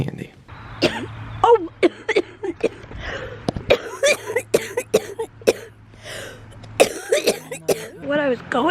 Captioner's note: coughing